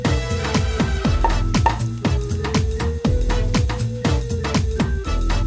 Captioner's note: wine uncorking